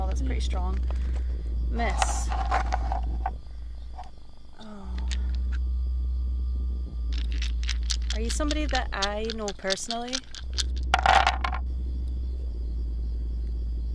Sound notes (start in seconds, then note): 7.1 dice rattling; 11.1 dice thumping